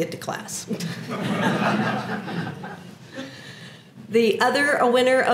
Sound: laugh

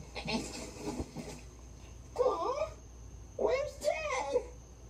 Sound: sighs

